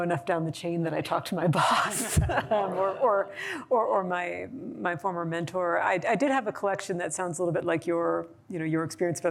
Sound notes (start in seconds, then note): 2.0 laughter